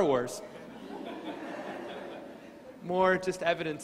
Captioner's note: crowd laughing